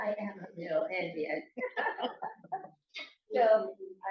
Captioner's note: laughter